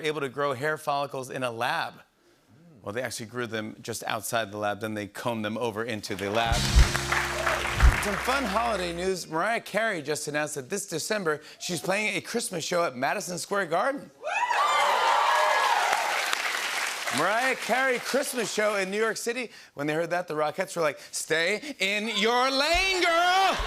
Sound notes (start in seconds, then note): 14.3 cheers and applause